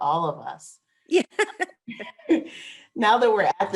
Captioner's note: laughs